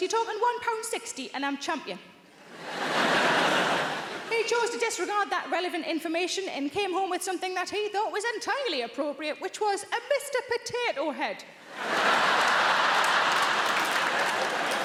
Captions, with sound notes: You're talking one pound 60 and I'm champion. (audience laughing) He chose to disregard that relevant information and he came home with something, that he thought was entirely appropriate, which was a Mr. Potato Head. (audience laughing)